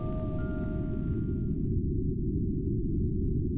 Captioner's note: echoey audioscape